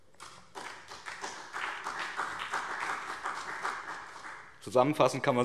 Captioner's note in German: Beifall BÜNDNIS 90/DIE GRÜNEN und CDU